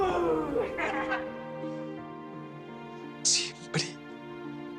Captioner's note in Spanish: Risas